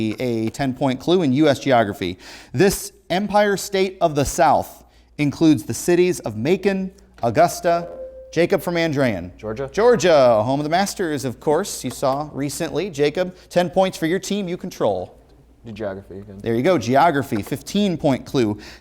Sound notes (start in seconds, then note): 7.6 ringing